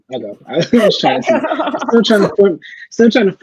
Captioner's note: laughing